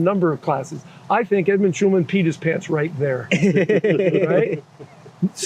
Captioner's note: laughter